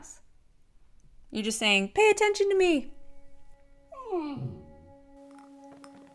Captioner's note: dog whine